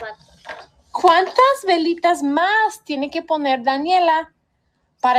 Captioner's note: teacher speaking Spanish